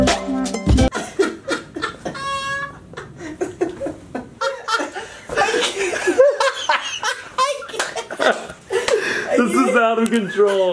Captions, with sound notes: (laughter) - This is out of control.